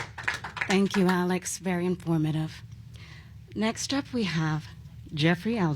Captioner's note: applause